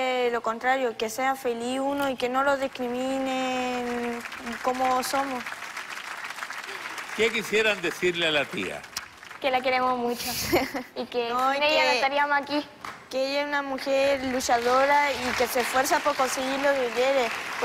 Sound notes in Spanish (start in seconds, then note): 6.9 Aplausos